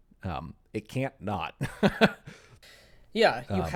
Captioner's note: laughs